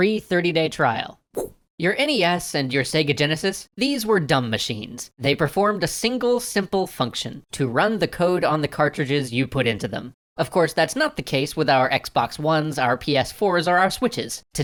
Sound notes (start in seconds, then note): 1.3 woosh